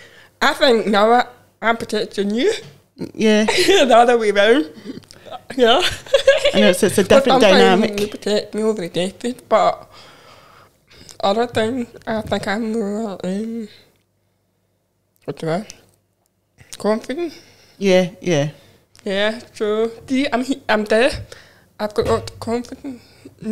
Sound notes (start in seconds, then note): 4.8 laughs